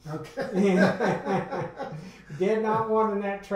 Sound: men laugh

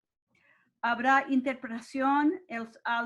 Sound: speaks in Spanish

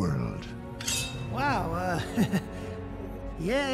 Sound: chuckles

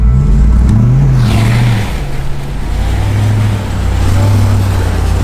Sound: engine revving

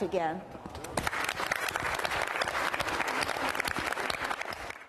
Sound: applause

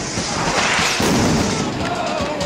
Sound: sound of explosions; celebratory cheering and singing

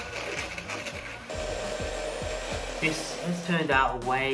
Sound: blender whirring

